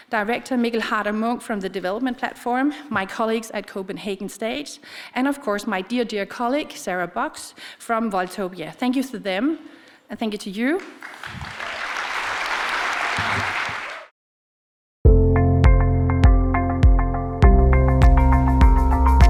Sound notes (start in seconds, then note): 10.8 audience applauds; 15.6 bright percussion music